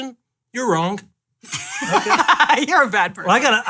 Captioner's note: laughing